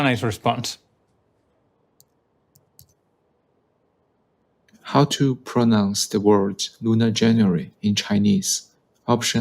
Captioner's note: keyboard clicking